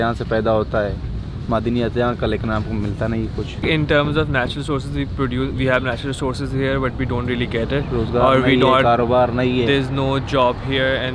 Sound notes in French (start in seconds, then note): 8.8 Langue locale